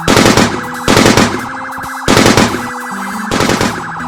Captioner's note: siren wails; gun shoots